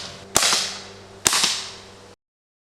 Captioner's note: shot